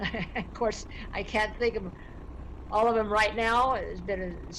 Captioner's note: laughs